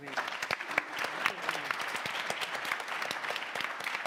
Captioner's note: audience applauds